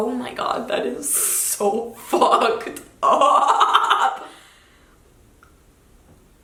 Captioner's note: giggles